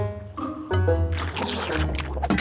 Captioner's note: slurp